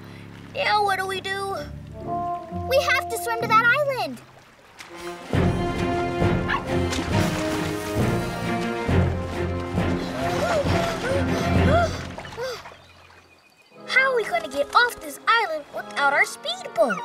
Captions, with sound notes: Now, what do we do? We have to swim to that island. [barking] [panting] How are we going to get off this island without our speedboat?